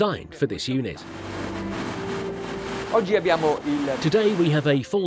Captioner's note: engine whirring